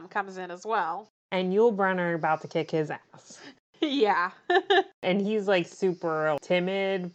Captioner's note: laughs